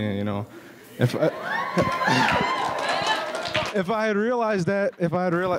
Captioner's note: audience cheers